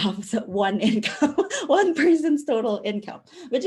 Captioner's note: laughing